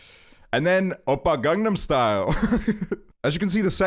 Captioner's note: laughs